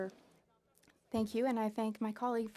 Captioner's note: speaking French